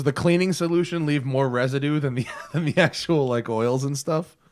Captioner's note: laughter